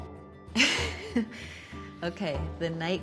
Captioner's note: laughing